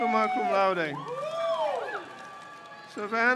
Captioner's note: crowd cheers